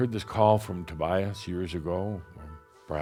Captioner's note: none